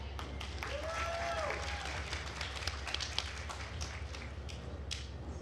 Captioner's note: attendees cheering and applauding